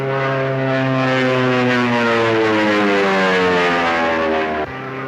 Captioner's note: airplane buzzing